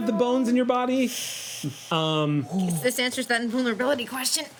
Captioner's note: inhales sharply